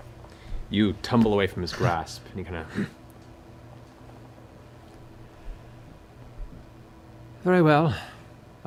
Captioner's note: grunts